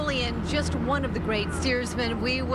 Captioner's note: boat engine running